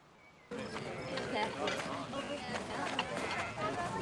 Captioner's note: general conversations